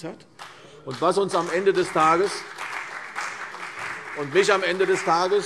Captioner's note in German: Beifall CDU und vereinzelt BÜNDNIS 90/DIE GRÜNEN